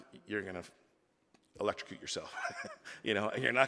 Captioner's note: laughing